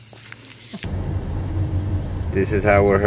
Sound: engine humming

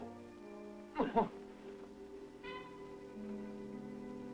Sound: man grunts

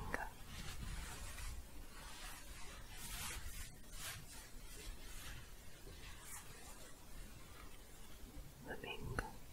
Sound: shuffling and scratching

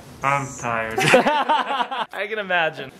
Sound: everyone laughs

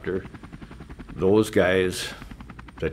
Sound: helicopter whirring

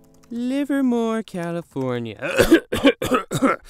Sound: clears throat

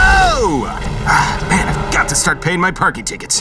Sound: sighs

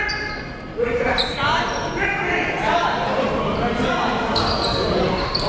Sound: coaches yelling; players bustling loudly

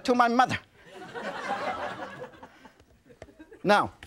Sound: audience laughs

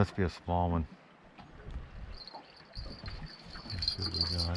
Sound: jangling

